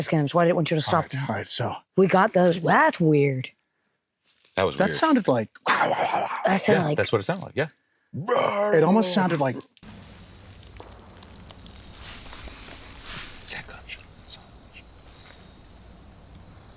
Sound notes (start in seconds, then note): 6.6 growls; 9.8 insects chirping